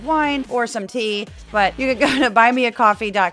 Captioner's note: laugh